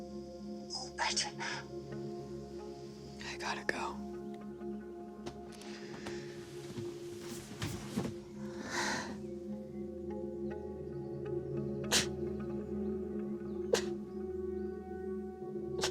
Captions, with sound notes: All better now? I gotta go. [Alex sighing] [Alex crying softly]